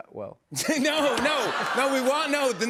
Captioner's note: laughter